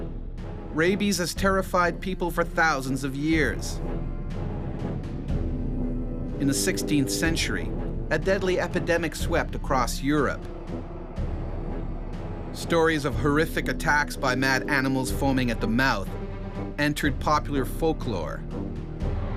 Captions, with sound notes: - [Voiceover] Rabies has terrified people for thousands of years. In the 16th century, a deadly epidemic swept across Europe. Stories of horrific attacks by mad animals foaming at the mouth entered popular folklore.